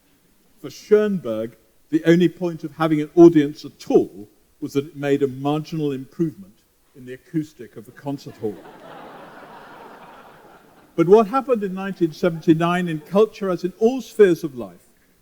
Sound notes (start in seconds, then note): 8.2 laughter